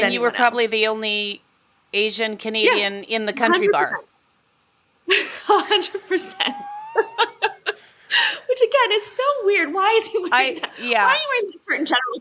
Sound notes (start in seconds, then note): 5.1 both laugh